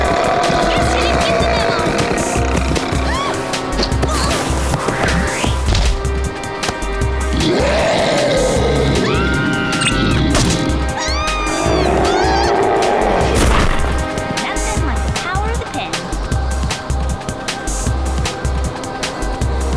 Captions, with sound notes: Guess he didn't get the memo. Whoa! [growling] [screams] Nothing like the power of the pen.